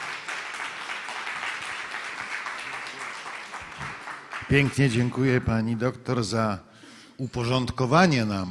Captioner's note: applause